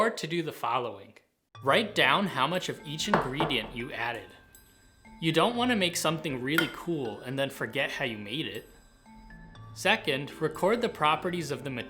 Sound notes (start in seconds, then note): none